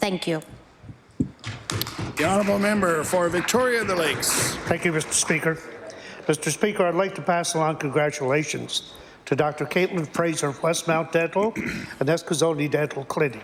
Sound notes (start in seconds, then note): 8.6 applause